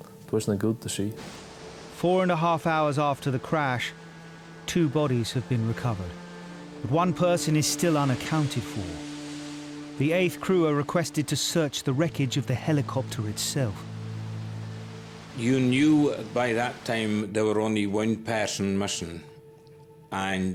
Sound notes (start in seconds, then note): 14.4 water surges